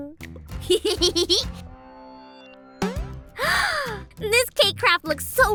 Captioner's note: chuckles